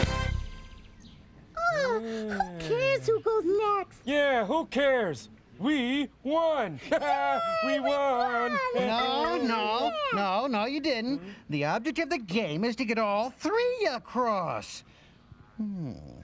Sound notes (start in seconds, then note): 6.7 laughs